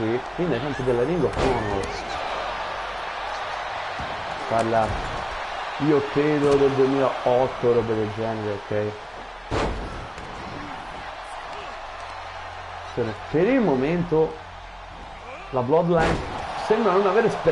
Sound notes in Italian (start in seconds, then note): 5.9 Applauso